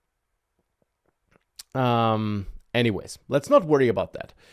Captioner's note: takes a breath